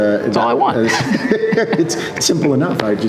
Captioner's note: both laughing